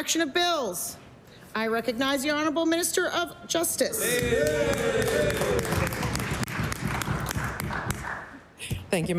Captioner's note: applause